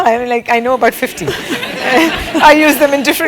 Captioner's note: laugh